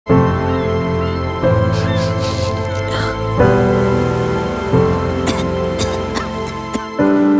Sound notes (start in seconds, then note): 0.1 light piano music; 2.2 person sniffing and coughing